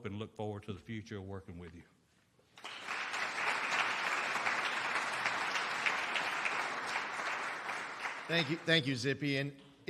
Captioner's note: applause